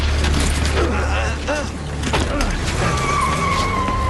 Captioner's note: Джони възкликва от болка